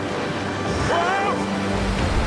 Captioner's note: waves crashing; dramatic music